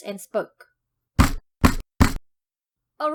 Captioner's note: bang